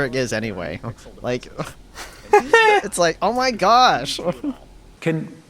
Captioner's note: laughs